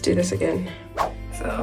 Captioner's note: whoosh